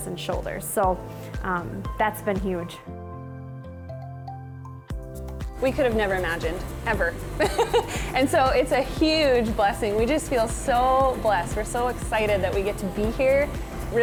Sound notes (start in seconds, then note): 2.0 upbeat music; 7.4 chuckles